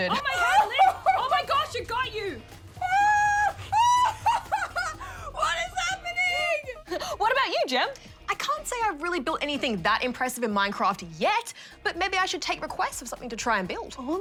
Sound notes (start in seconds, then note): 0.0 laughs; 2.6 laughs, squeals